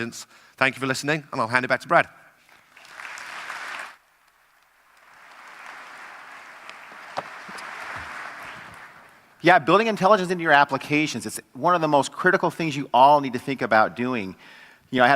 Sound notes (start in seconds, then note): 2.4 applause